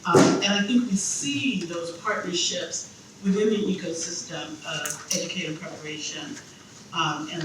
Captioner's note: none